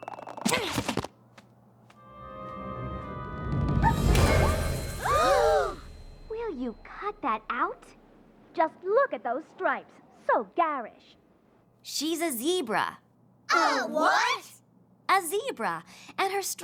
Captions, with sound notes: [ GROANS ] [ ALL GASP ] WILL YOU CUT THAT OUT? JUST LOOK AT THOSE STRIPES. SO GARISH. SHE'S A ZEBRA. A WHAT?! A WHAT?! A WHAT?! A WHAT?! A ZEBRA.